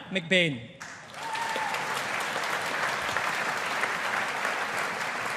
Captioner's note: audience applauding